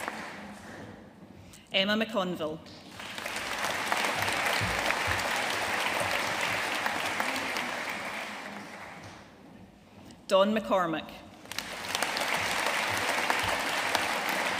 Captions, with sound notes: Emma McConville. (AUDIENCE APPLAUDING) Dawn McCormack. (AUDIENCE APPLAUDING)